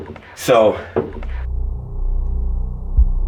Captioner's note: object thuds; ominous music; heart beating; object thuds